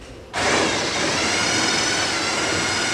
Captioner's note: sound of drilling